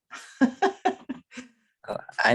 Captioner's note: chuckles